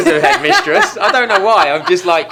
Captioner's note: laughing